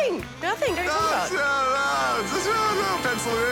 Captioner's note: mutters